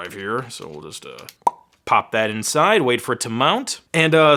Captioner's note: popping